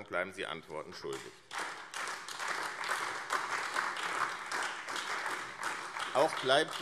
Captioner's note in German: Beifall AfD